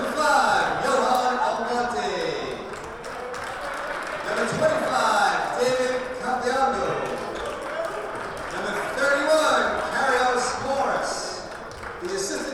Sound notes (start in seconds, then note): 3.2 crowd applauding